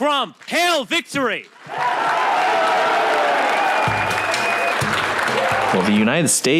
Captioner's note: audience clapping and cheering